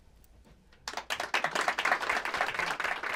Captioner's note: applause